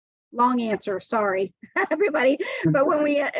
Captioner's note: laughs